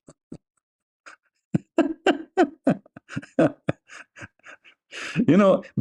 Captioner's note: Ketawa